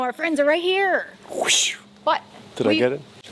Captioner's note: air whooshing